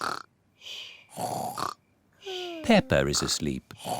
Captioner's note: snores